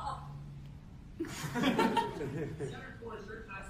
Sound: laughter

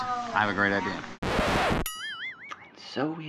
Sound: record scratching

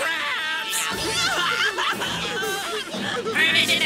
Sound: crying

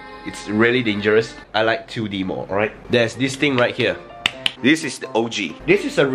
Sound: slaps

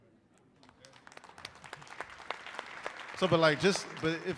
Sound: crowd applauding

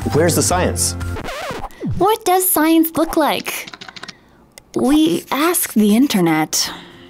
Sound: record scratch; confused sigh

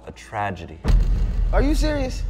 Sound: low-bass boom

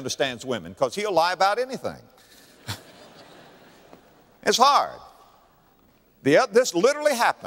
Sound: audience laughter

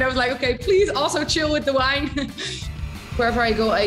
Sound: laughs

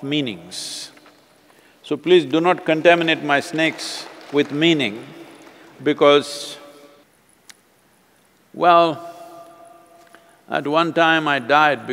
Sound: applause

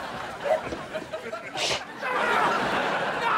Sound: sneezing

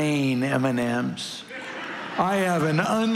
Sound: congregation laughing

